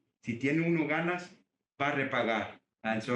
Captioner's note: speaks Spanish